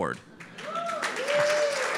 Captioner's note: audience applauds